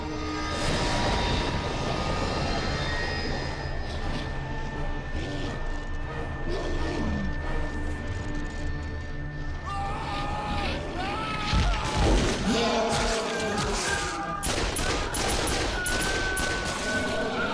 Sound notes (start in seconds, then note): 0.1 power whooshing; 5.3 creature growling; 9.7 man screaming; 12.6 creature roaring; 14.4 gunshots booming